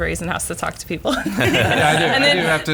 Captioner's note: laughing